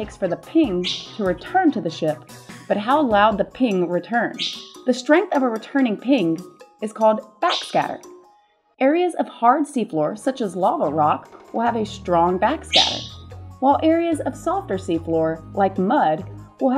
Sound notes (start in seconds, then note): 12.7 loud ping